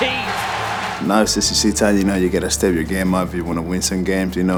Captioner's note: voiceover